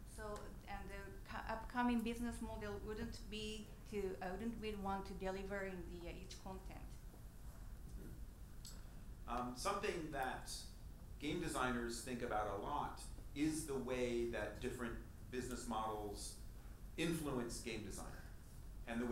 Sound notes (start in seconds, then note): none